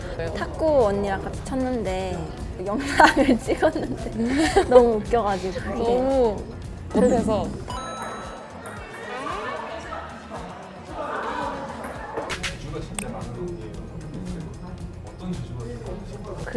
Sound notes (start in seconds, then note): 7.6 pong; 7.7 ping